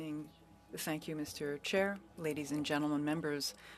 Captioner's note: speaking French